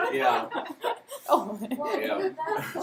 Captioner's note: laughter